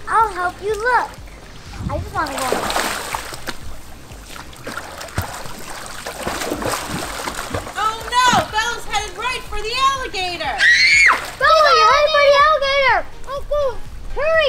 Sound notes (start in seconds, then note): 10.6 screams